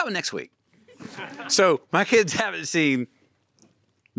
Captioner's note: audience laughing